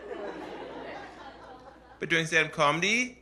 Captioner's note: laughter